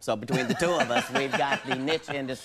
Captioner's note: Conan laughing